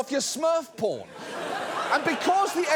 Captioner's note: audience laughs